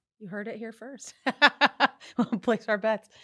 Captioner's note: laughing